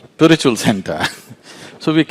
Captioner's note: laughs